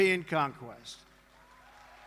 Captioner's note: applause